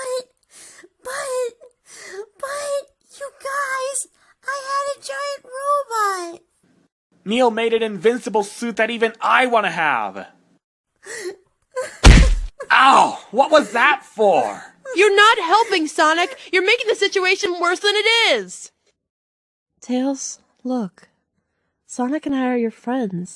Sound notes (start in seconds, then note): 11.0 crying